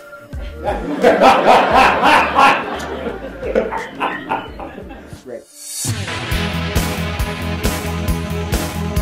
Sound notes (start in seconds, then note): 0.6 laugh